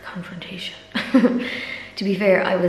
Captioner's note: laughs